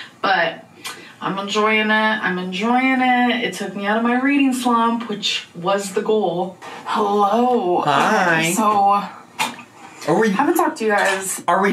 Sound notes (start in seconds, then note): none